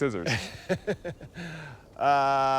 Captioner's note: laughing